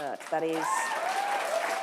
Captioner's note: applause